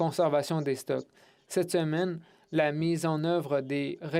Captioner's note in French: voix de l'interprète